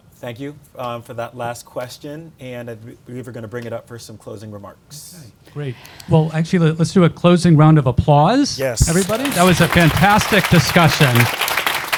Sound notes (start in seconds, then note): 8.8 audience applauding